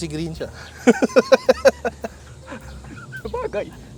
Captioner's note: laughs